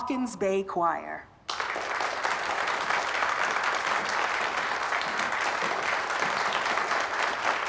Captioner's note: applauding